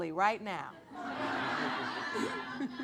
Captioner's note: audience laughing